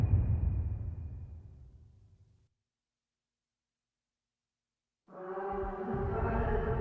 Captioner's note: dramatic sound